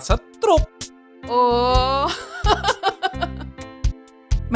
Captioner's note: laughs